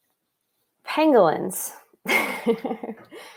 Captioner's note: soft laughter